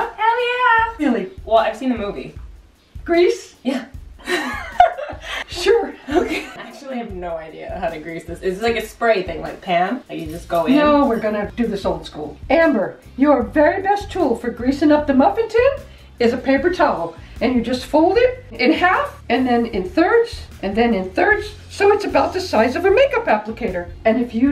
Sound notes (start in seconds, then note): 4.2 giggles